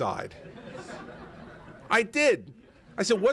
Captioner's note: laughter